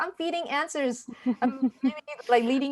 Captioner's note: laughing